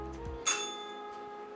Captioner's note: bell rings